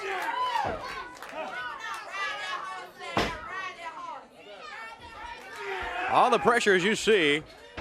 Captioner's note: crowd cheering